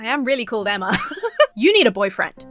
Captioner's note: giggles